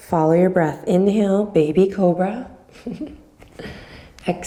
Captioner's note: chuckles